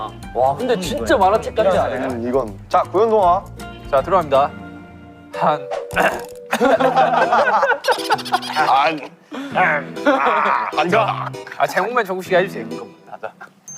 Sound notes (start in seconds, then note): 6.0 ahem